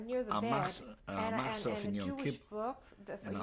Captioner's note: speaking yiddish